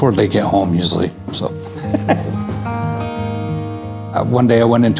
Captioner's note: laughing